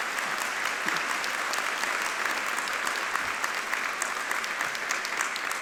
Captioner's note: audience applauding